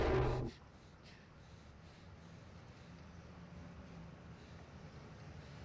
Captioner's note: Olive breathing heavily